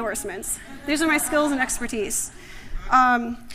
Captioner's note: laughter